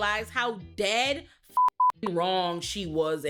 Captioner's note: beep